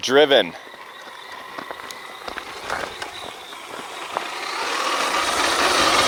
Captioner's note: remote control car sound